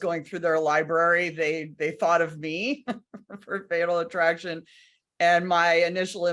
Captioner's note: laughs